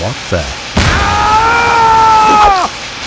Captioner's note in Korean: 스파이 비명